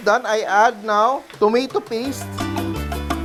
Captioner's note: sizzle